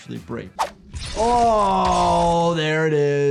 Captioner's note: blade clangs